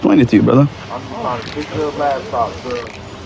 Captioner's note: chatttterer